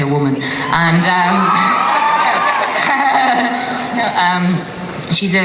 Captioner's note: audience cheers